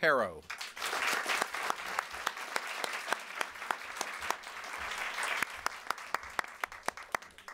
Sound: applause

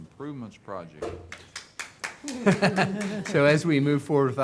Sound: clapping; chuckling

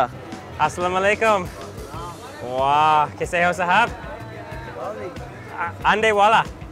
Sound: speaks in foreign language

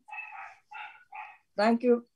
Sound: dog barking

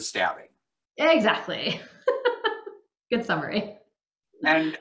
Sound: laughing

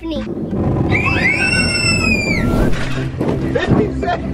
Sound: kids screaming

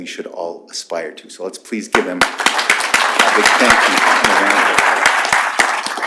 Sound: applause

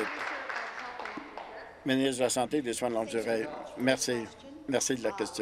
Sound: applause

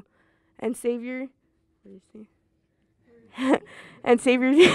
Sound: laughs

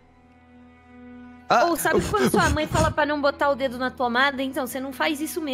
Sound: blowing

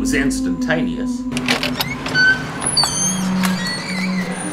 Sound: door creaking

